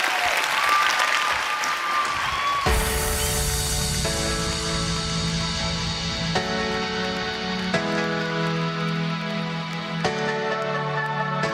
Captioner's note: applause